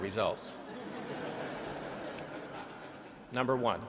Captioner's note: audience laughing